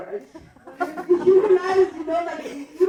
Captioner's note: laughing